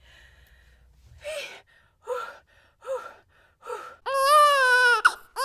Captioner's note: heavy breathing; baby crying